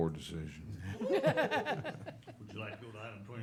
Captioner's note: laughter